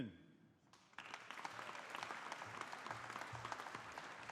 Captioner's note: audience applauding